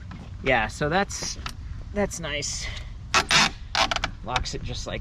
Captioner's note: metal squeaking